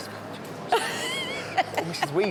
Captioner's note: whispers